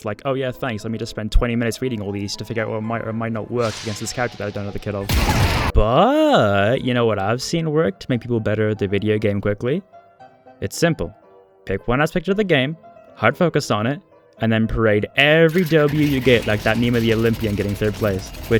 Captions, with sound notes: Like oh yeah thanks let me just spend 20 minutes reading all of these to figure out what might or might not work against this character that I don't know the kit of *BANG* BBUUUUTTTTTT You know what I've seen work to make people better at the video game quickly? It's simple; Pick one aspect of the game, Hard focus on it, And then parade EVERY W you get like that meme of the Olympian getting 3rd place.